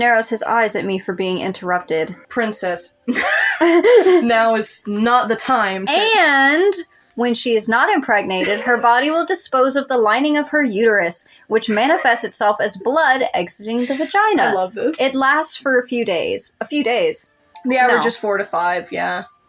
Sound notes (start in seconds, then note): 3.1 both Laugh; 8.2 laugh; 13.7 quiet Laugh